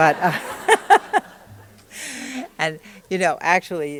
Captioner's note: laughter